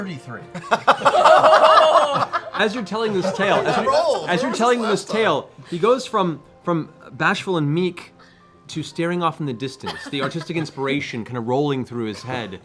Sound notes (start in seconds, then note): 0.5 laughter